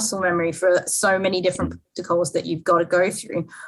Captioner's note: microphone cuts out